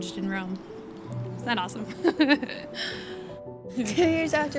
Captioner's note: laughs